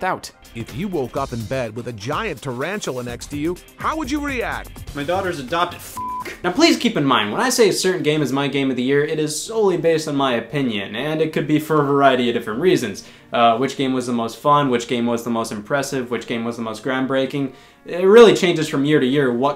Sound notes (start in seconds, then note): 5.9 beep